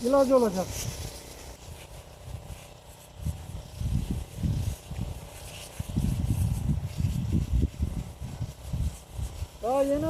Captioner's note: the sound of the sprinkler while spraying